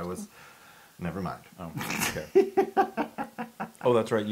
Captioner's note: laugh